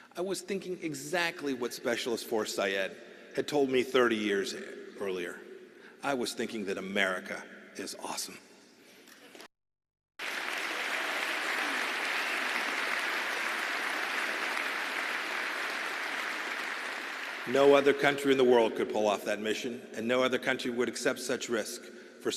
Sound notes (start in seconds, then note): 12.7 applause